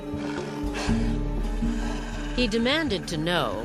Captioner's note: Mara growling